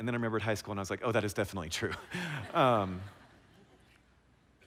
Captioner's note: laughter